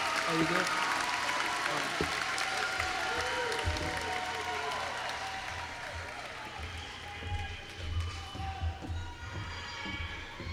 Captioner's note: applause